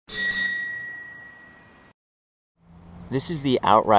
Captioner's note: bell rings